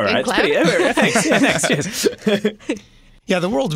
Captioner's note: laughter